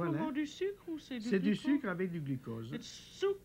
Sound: speaking French

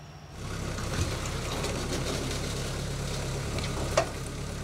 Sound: engine rumbling

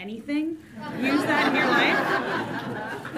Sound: audience laughs

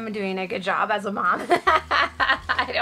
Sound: laughs

